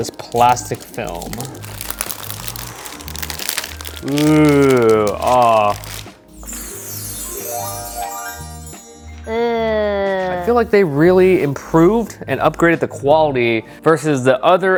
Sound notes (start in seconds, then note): 6.2 sparkle noises